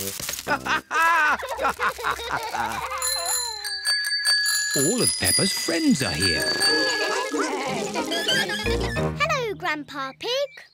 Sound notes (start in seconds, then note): 0.4 all laugh; 2.6 bells ring; 5.7 all chatter